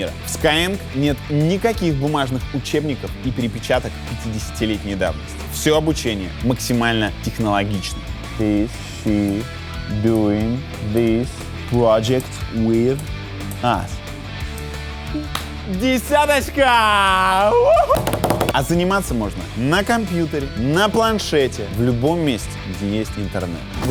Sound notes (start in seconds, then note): 15.0 claps; 17.9 bangs on the table